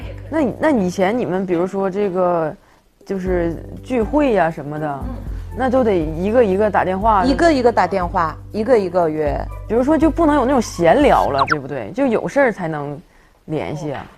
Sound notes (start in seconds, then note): 11.4 curiously